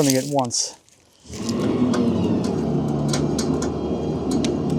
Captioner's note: machinery humming